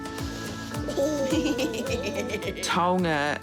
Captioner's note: both giggle